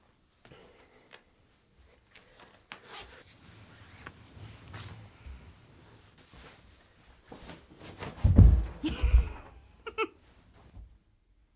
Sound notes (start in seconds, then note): 8.0 thud on the floor